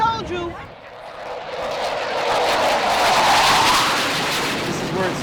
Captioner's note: jet roars